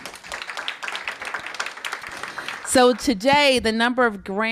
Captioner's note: applause